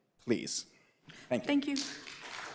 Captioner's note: applause